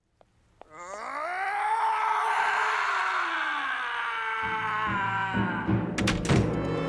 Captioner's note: Harvey screams